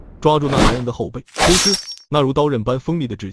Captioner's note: Squelch